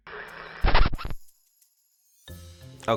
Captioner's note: record scratching